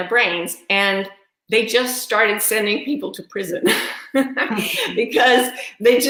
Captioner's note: laughs